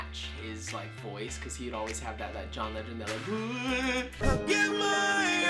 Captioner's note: mimics voice